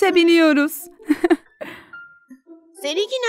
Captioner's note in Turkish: gülüyor